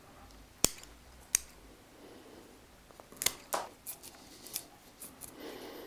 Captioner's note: sound of scissors cutting